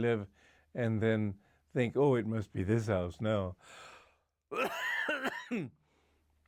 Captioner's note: coughs